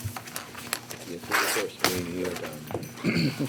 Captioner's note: page tearing; chuckles